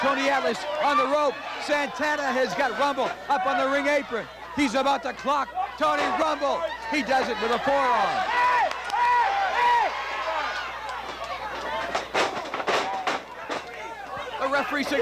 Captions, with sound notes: A right, Atlas is wobbling, but so is Santana. Santana is down. (crowd yelling)